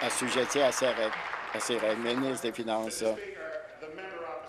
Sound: applause

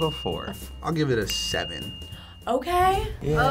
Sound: bell dinging

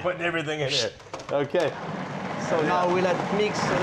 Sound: laughing; processor whirring

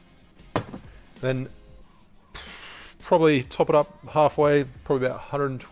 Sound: bottle thuds; blows

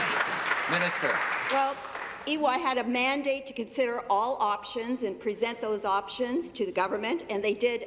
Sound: applause

